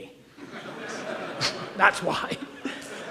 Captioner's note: audience laughs